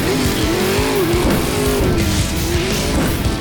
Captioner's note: cars being crushed!